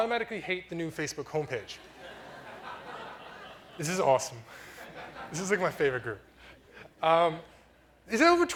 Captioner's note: audience laughter